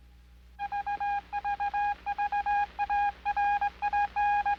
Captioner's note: radio tower beeping